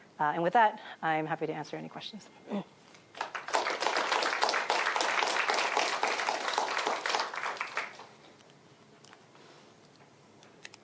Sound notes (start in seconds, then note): 3.1 applause